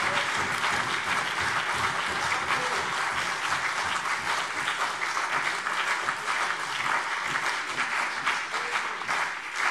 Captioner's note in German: Beifall CDU und BÜNDNIS 90/DIE GRÜNEN